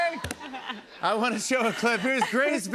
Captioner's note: normal voice